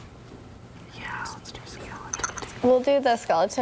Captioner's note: students whispering